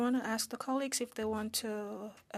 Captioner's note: speaking French